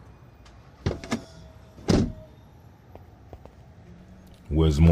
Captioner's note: door closes